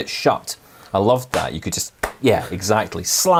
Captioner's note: phone slamming shut